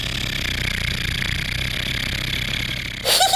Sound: road roller motor

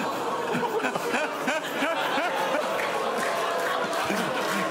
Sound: audience gasps

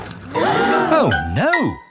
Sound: all gasp

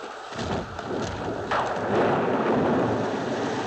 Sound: thunder crashes

